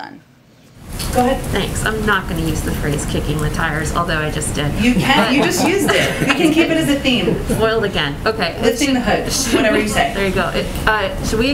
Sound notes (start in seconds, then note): 4.9 laughter